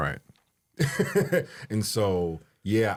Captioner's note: chuckling